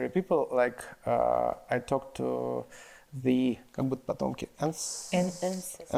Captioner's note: speaks in foreign language